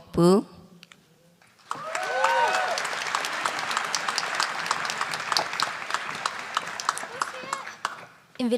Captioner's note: applause